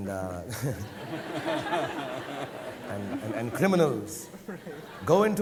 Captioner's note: audience laughing